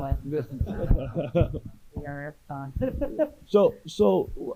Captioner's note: audience and panelists laughing